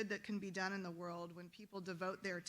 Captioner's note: none